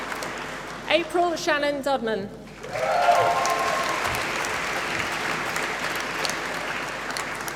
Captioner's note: applause